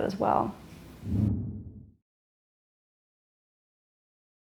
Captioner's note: air whooshing